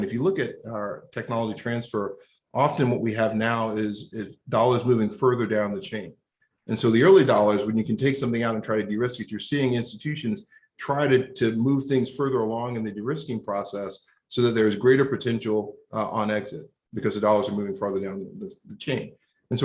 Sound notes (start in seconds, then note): none